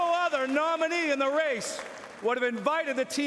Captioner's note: cheering